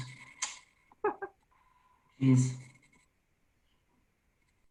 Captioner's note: laughing